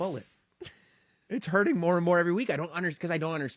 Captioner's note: laugh